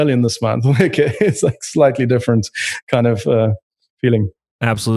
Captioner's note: laughs